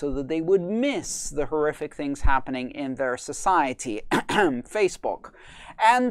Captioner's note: clears throat